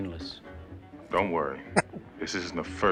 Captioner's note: chuckling